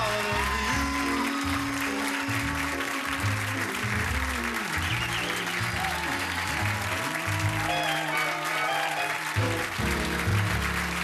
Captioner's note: cheers and applause